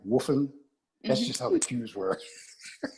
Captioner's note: laugh